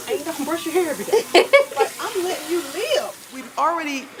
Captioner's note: laugh